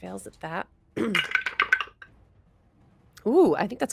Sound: dice clatter

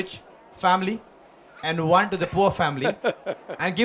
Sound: Sadhguru Laughs

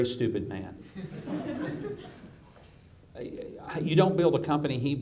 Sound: audience chuckles

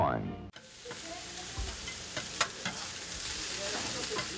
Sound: grilling sounds

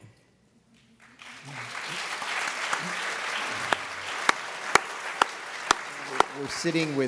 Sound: applause

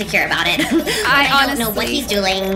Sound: laughs

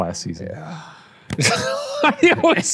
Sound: groaning; laughing

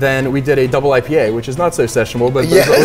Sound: laughing

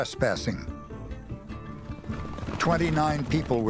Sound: galloping hoofbeats

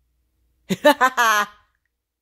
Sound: two laughing

